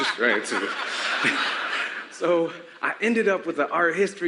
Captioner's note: laughter